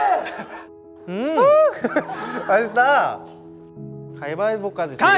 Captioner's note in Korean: 웃음이 끊이지 않고